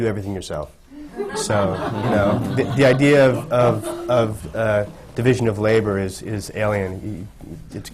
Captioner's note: laughter